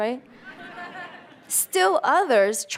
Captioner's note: audience laughter